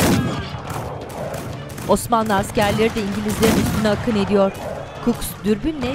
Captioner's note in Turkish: Silah sesleri